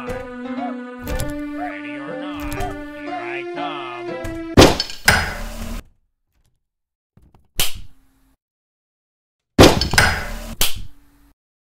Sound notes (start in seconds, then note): 1.0 door Opens; 4.5 grappling Hook Sounds; 9.6 grappling Hook Sounds